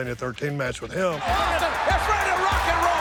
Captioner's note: crowd shouting and cheering